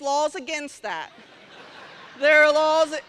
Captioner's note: laughter